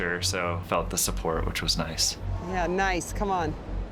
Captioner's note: none